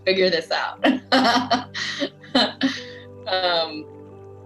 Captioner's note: laughs